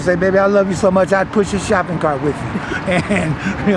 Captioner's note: chuckles